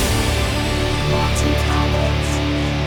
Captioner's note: synthesized voice